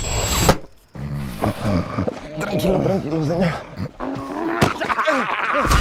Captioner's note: muttering; snoring; laughing maniacally